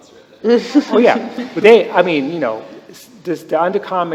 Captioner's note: laughter